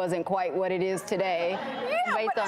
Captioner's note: audience laughs